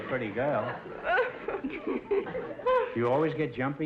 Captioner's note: laughing